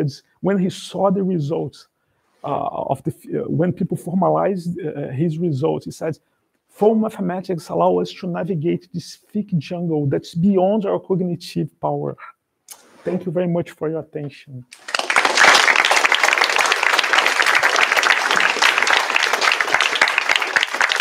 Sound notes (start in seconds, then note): 14.7 applause